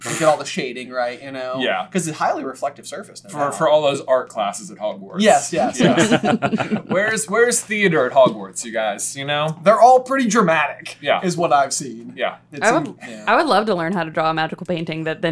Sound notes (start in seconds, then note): 5.5 laughter